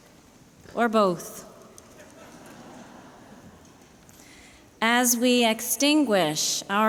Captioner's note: laughter